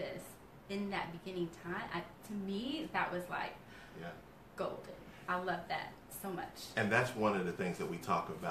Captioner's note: breathes